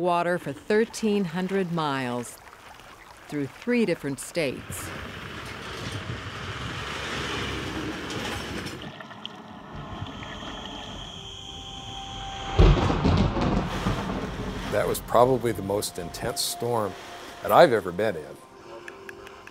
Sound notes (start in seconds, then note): 4.5 trucks rumbling past; 9.5 strong thunder crashes